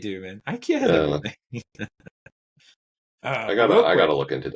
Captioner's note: laughing